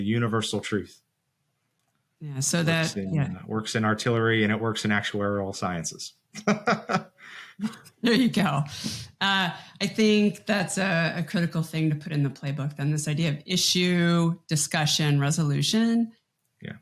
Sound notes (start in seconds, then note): 6.4 laughs